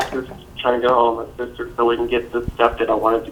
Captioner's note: noise of setting the phone down drowns out speaker